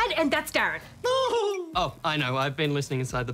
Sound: chuckles

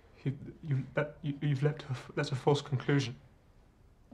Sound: stuttering

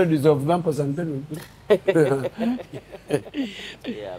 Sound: both laughing

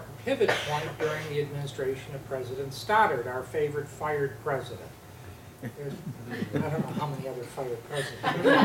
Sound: laughter

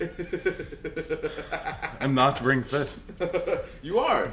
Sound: laugh

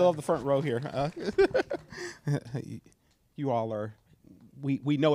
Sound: chuckles

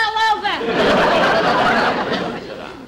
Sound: audience Laughing

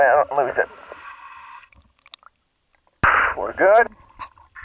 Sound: inhaling air

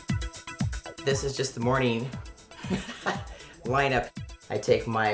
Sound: chuckles

